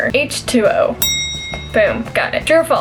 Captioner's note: bell ring